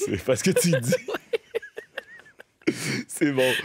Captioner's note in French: rires